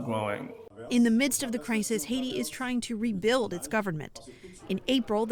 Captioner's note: voice-over